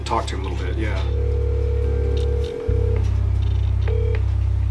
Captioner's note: phone ringing